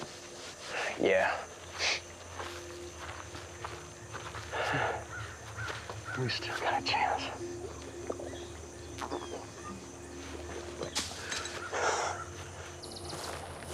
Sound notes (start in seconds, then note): 4.6 chuckles